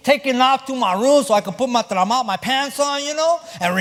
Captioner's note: spanish